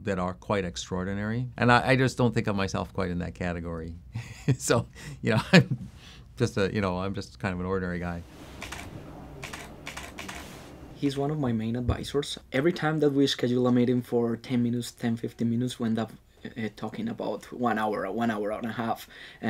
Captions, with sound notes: that are quite extraordinary and I just don't think of myself quite in that category. (chuckling) So, you know, I'm just a, you know, I'm just kind of an ordinary guy. (camera shutter clicking) - He's one of my main advisors. Every time that we schedule a meeting for 10 minutes, 10, 15 minutes, we end up talking about one hour or one hour and a half.